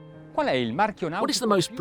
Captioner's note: speaking in foreign language